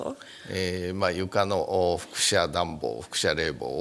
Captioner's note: speaking japanese